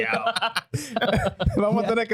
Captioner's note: laughter